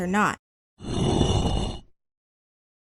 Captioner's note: stone sliding sound effect